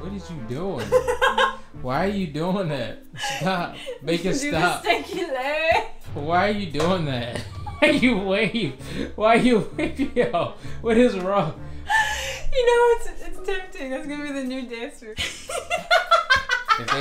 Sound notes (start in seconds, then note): 0.0 light music; 0.8 laughing; 15.2 laughing